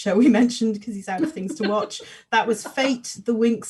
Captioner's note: laughs